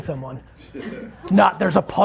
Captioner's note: laughing